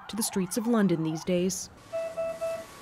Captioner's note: sirens